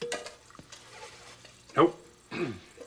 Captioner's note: clears throat